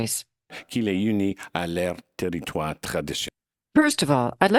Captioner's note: speaking in French